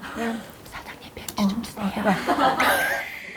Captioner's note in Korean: 소근소근